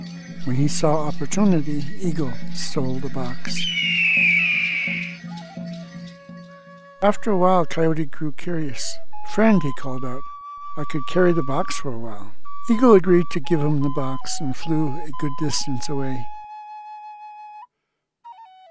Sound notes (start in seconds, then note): 3.5 eagle screeches